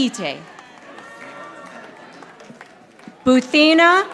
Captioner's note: audience applauding